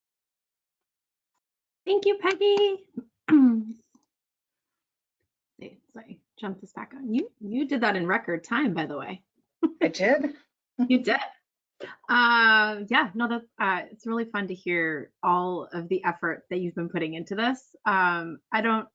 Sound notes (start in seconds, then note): 2.6 applauds; 9.9 laughs